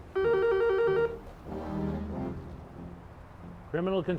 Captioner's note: phone ringing